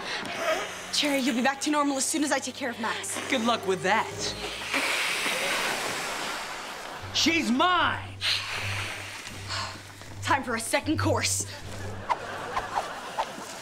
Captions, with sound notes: Cherry, you'll be back to normal as soon as I take care of Max. Good luck with that! [hissing] She's mine! Time for a second course!